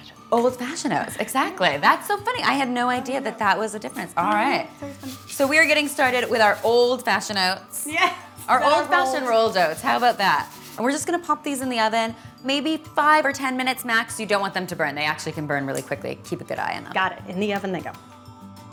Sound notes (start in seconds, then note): 7.9 laughs